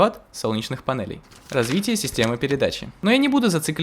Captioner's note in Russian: звук перелистывания бумаги